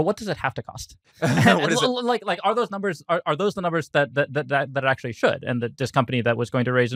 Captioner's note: laughs